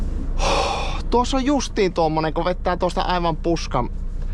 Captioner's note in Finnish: huokaus